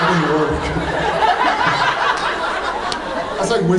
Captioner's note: laughs